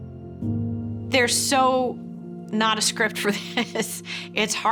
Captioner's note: chuckling